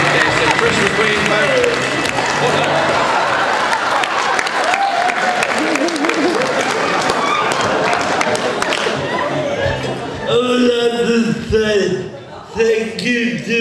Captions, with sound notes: Fantastic, Trish McQueen folks. (laughter, cheering and clapping)